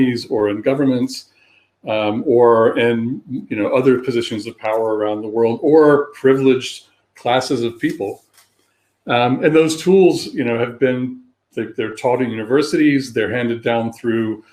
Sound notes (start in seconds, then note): 9.9 erm